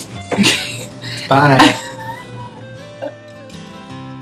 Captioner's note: laughing